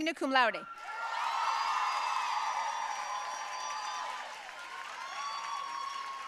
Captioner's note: audience cheering and applauding